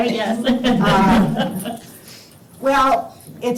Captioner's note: laughs